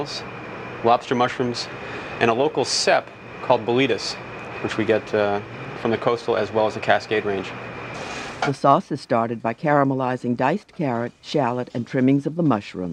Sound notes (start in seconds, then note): 8.5 voiceover